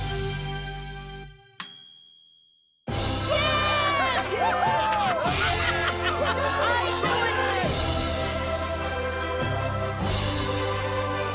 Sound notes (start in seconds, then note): 1.5 dinging; 3.2 cheering